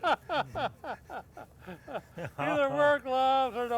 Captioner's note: laughs